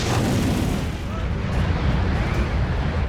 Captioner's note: wind blowing